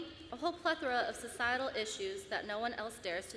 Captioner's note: none